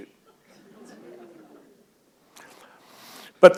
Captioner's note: laughter